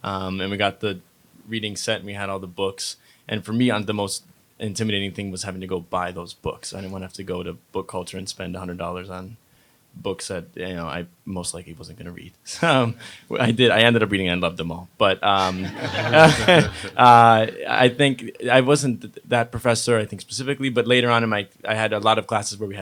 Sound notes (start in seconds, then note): 15.4 audience laughs